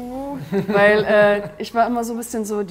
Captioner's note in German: Lachen